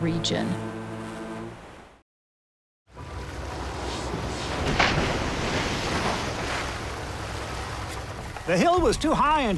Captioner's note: water Splashing